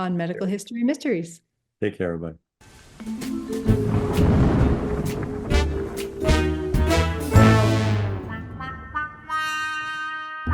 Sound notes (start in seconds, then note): 3.1 mysterious music; 3.6 thunder clapping; 4.7 mysterious music